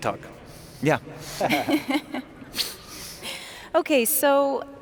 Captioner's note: laughing